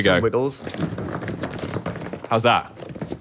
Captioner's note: inflatable rumbles